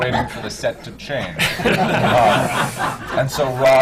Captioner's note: laughter